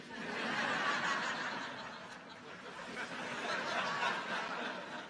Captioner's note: audience laughs